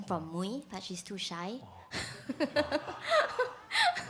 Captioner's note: laughs